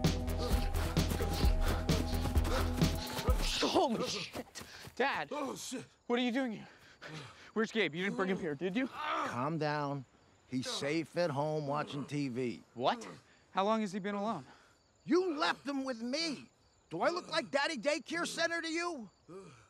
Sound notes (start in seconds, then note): 0.2 both panting, grunting; 8.1 Daveed groaning